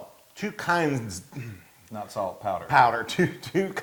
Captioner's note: cough